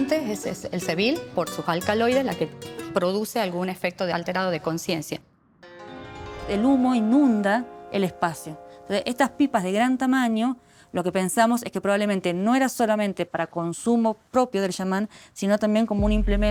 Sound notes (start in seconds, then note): 6.4 speaking Spanish